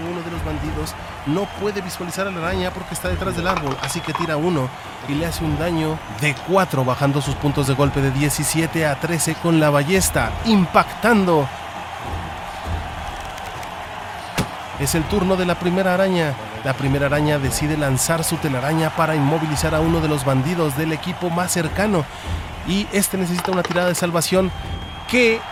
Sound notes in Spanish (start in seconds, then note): 11.8 ovación